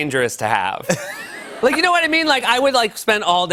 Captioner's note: laughter